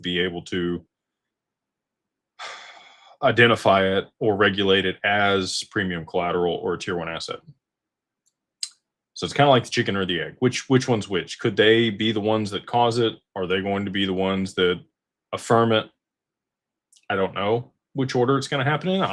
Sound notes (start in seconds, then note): 2.4 sighs and gasps